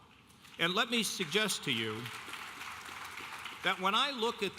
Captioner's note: audience applauding